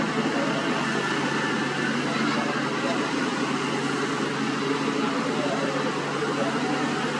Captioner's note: engine Rumble